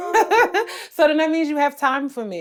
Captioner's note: Treasure laughs